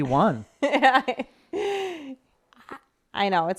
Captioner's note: laughing